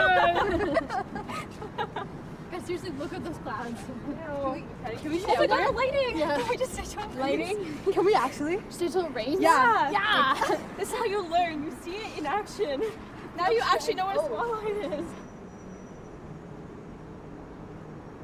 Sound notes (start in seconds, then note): 5.4 overlapping chatter